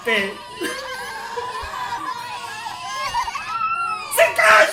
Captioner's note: every soul crying